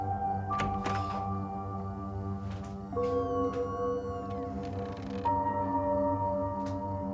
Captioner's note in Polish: skrzypienie otwieranych i zamykanych drzwi